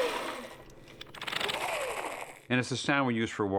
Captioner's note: whirring softly